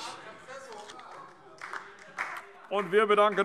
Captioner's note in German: Beifall DIE LINKE - Zuruf AfD